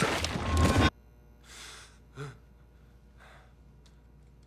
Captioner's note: gasps